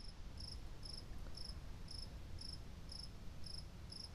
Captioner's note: insects buzzing